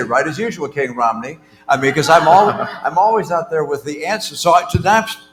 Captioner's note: laughter